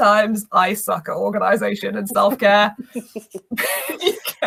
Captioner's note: laughs